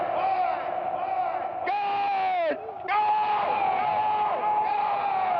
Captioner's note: echoing